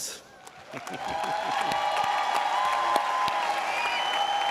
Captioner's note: audience cheering